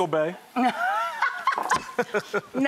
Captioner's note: laughing